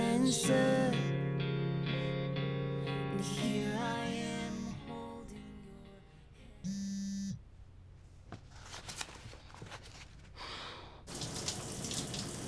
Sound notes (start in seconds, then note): 1.3 phone buzzing